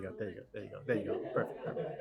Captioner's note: laughter